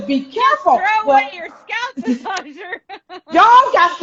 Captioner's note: laughing